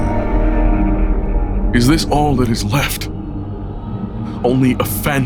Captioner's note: Chartrulean's thoughts continue swirling in distorted echoes